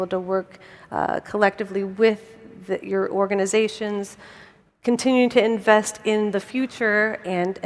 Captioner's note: none